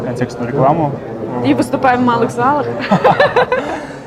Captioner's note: laughing